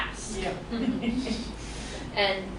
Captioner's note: laughs